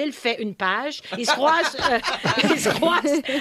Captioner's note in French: rires